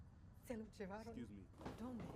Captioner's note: speaking spanish